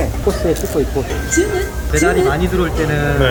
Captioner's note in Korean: 포장 주문 알람 소리